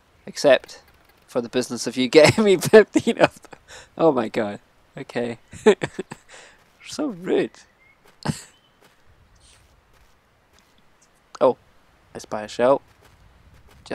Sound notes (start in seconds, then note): 5.4 laughs